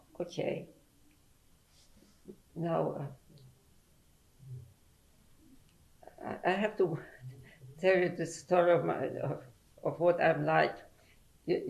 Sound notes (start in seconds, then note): 3.1 pauses for 3 seconds